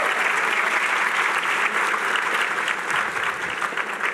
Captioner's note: cheering